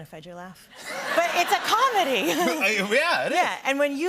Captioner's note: laughter